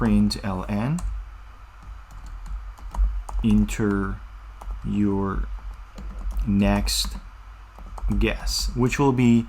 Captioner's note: typing